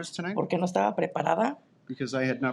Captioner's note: speaking in Spanish